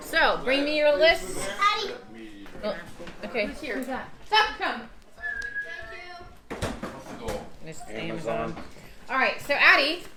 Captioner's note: knock at the door